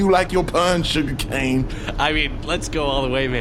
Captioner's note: nervous laughter